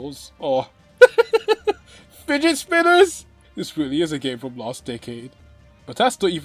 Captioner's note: bursts out laughing